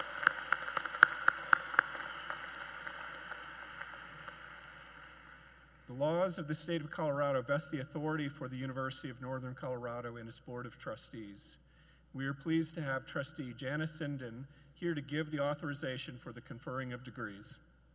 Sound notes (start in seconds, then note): 4.2 cheers and Applause